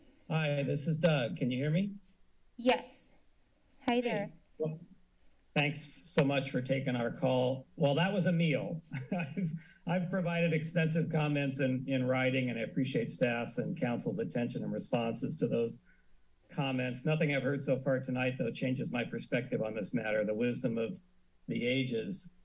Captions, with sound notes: - Hi. This is Doug. Can you hear me? - Yes. Hi there. - Thanks so much for taking our call. Well, that was a meal. [laughs] I've provided extensive comments in- in writing, and I appreciate staff's and council's attention and responses to those comments, nothing I've heard so far tonight, though, that changes my perspective on this matter, the wisdom of the ages,